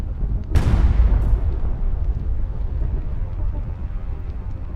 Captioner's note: missile launching